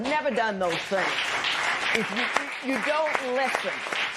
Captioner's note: applause